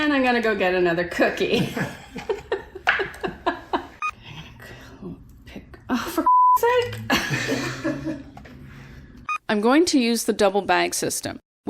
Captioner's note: laughs